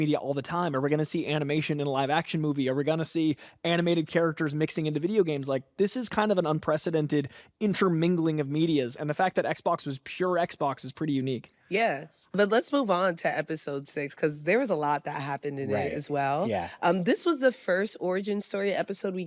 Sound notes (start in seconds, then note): none